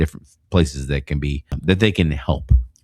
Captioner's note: uh